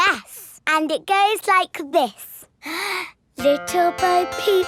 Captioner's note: inhales